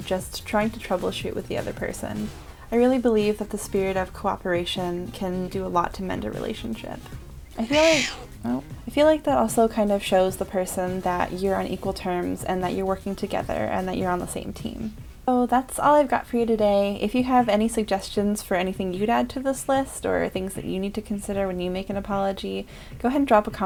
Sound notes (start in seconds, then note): 7.6 cat meows